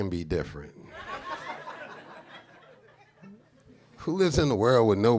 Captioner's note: audience laughs